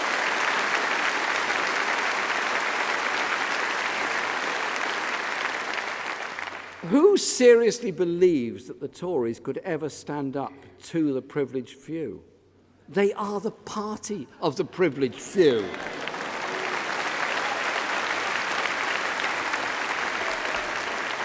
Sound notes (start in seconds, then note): 7.8 applause; 20.1 applause